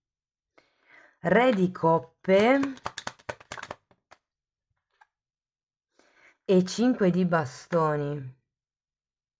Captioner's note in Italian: Applauso